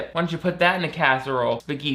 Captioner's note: none